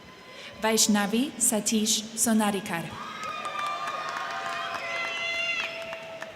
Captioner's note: crowd cheering